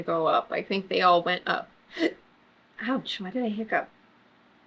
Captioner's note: hiccups